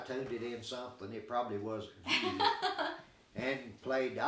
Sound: chuckling

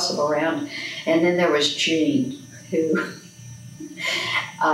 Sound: laughs

